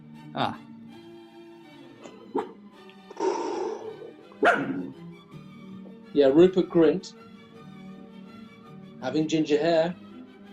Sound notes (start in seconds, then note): 2.3 dog quietly yaps; 4.4 exhales, dog barks